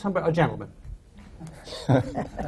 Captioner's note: laughter